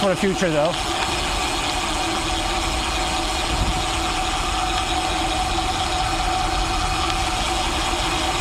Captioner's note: engine noise